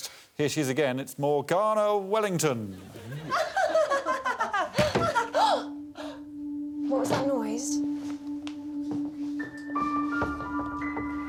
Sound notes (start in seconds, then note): 4.7 laughter; 5.9 gasps; 9.6 mysterious music plays